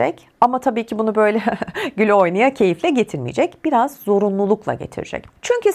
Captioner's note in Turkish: kahkaha